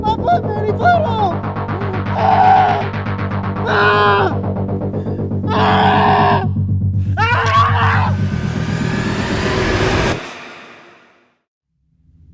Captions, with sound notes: My foot nearly blew off. (screaming) (suspenseful music)